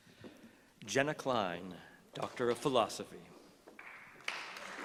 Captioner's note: applause